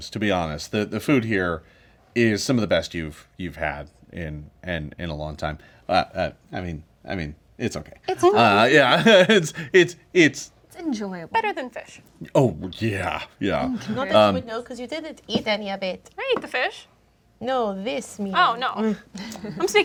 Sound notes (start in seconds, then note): 8.3 laughing